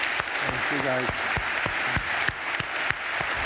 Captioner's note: applause